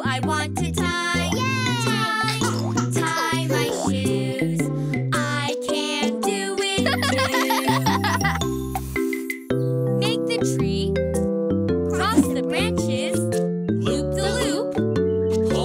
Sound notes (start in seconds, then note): 6.8 chuckling